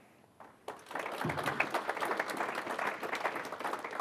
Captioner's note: applause